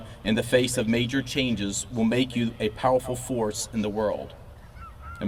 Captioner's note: none